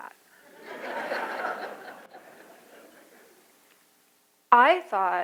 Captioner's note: audience laughing